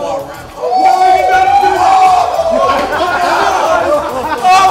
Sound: indiscernible yelling

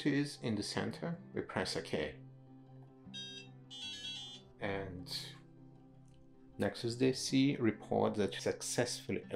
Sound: DSC emits a series of melodic beeps

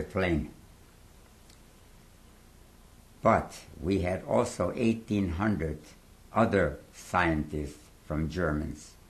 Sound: pauses for 3 seconds

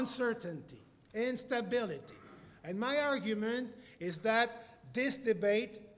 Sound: cough

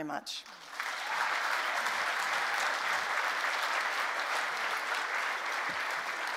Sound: applause

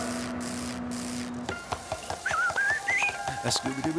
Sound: whistling

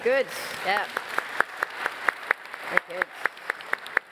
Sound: applause

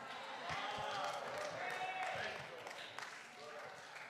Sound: applause

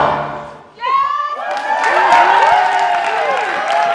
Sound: cheering

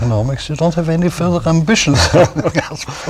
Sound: laughter

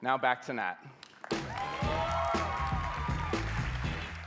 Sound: cheering, music playing

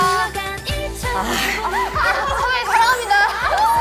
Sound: deep sigh

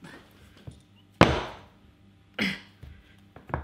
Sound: banging

